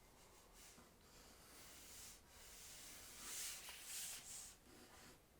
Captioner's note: pencil scratching